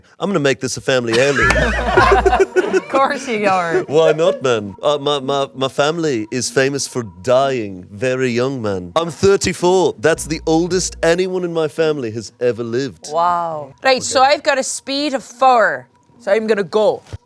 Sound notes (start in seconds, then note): 1.1 all laugh